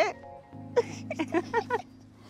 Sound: giggling

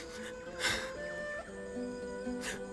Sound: Ağlama sesi

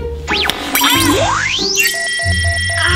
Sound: beeping

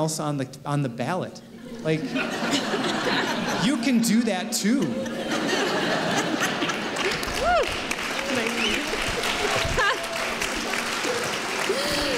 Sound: laughter; laughter and applause

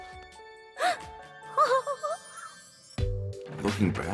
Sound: gasp

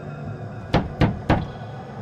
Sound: pounding on door

